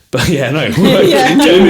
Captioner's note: laughing